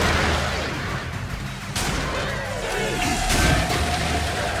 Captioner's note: shotgun popping